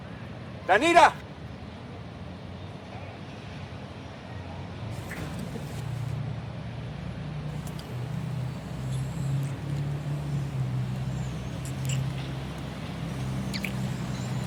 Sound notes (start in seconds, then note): 5.0 kissing; 9.7 kissing